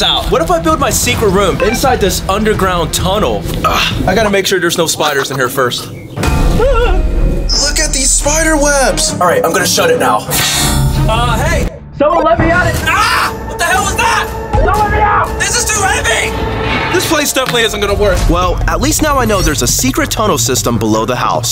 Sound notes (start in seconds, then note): 13.0 urggghhh